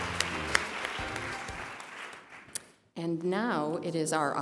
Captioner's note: applause